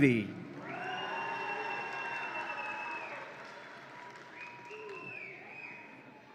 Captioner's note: audience applauds and cheers